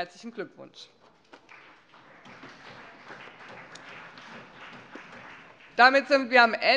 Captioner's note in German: Beifall